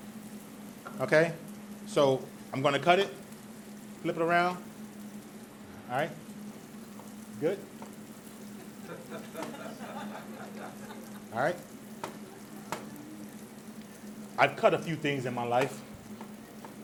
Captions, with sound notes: Okay? So, I'm gonna cut it, flip it around. All right? Good? (audience laughs) All right? (knife chops) I've cut a few things in my life,